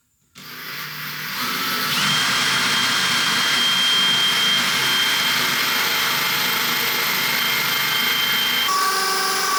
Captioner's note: drill whirring